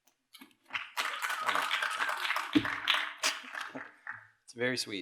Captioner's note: applause